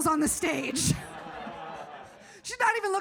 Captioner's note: audience laughs